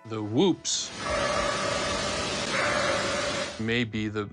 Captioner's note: eerie barking